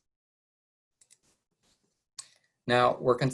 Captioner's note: mouse clicking